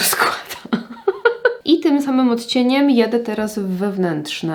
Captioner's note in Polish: śmiech